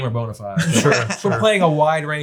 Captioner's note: laughs